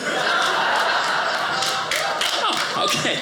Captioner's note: audience applauding